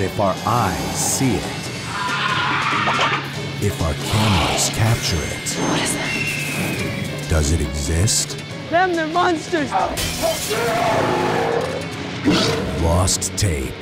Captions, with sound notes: [ SHRIEKS ] WHAT IS THAT? THEM -- THEY'RE MONSTERS! [ GLASS SHATTERS ] [ GROWLS ]